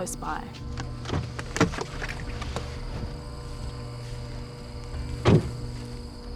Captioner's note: suspenseful music; insects chirring